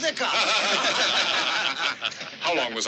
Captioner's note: laughter